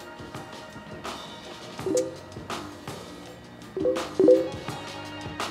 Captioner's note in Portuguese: Barulho Facebook